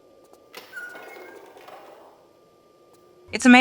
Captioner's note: door sound ♫